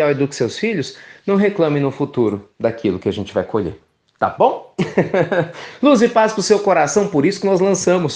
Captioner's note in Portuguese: risos